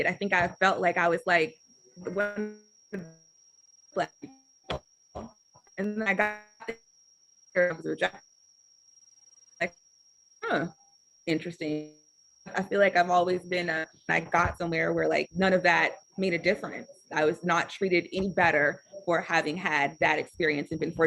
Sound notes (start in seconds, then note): 8.6 audio Cuts Out